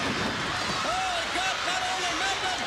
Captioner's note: crowd cheering